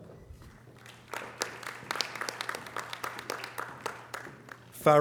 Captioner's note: audience applause